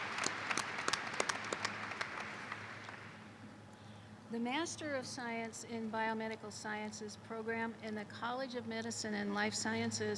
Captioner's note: applause